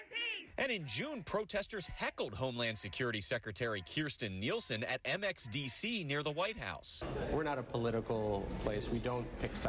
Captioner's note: chanting